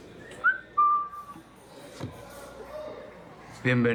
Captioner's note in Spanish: Silbidos